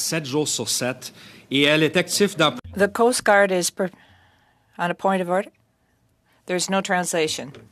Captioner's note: speaking French